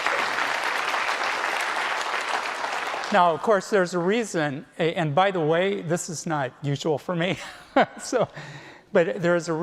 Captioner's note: applause